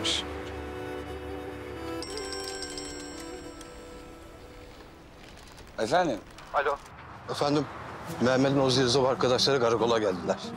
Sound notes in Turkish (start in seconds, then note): 2.0 Telefon Çalıyor